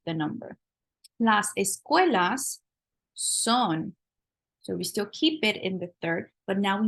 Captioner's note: spanish